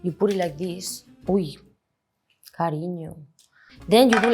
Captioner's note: speaks in Spanish